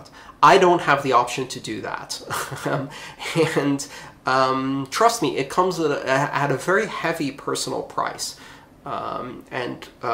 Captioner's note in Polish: Śmiech